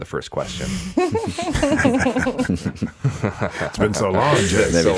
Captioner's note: all chuckling